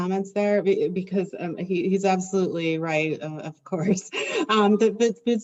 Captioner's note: laughs